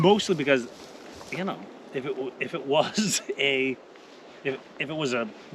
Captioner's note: laughing; laughing